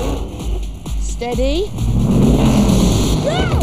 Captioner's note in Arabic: تسريع المحرك